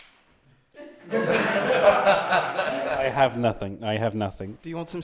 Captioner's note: laughter